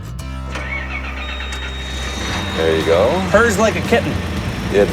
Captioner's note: engine starting